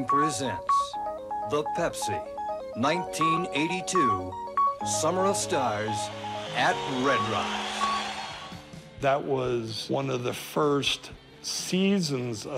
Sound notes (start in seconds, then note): 7.5 audience cheering